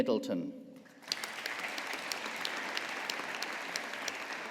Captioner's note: audience applauding